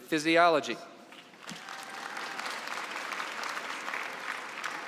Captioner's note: applause